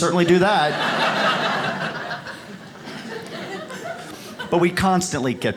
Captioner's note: audience laughs